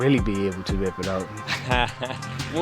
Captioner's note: laughs